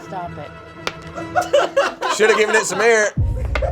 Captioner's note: all laughing